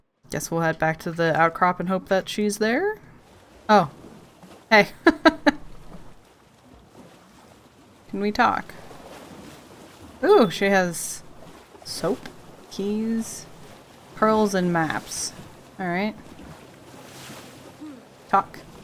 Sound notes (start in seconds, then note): 5.0 laughs